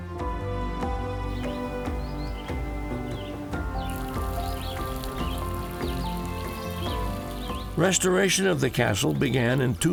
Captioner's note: birds singing, water falling